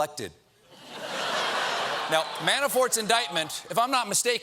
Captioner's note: laughter